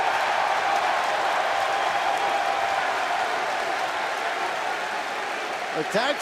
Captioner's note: crowd cheering